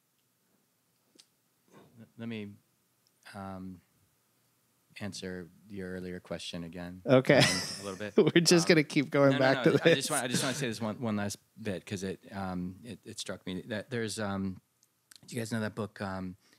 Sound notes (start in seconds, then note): 7.3 laughter